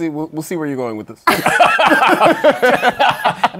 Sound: laughter

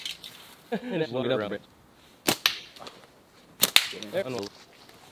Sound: men laughing

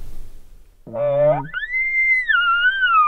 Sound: caller bugling

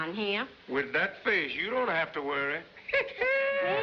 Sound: laughs

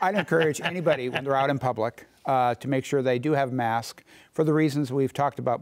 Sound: laughter

